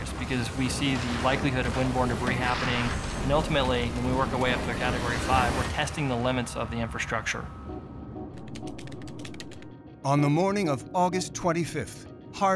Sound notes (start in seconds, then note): 8.3 typing on keyboard